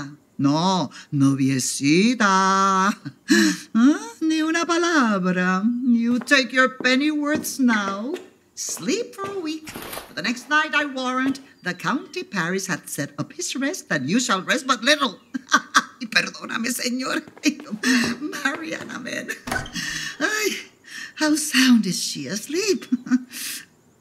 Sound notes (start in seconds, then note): 15.2 laughing